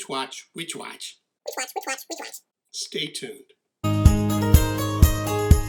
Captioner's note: high speed talking